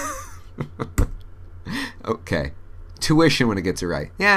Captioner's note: laughs